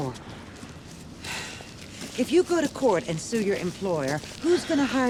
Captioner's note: sighs